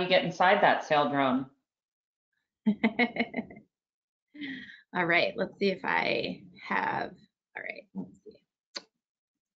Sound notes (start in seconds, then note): 2.7 laughs